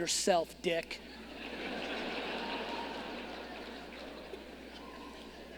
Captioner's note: audience laughing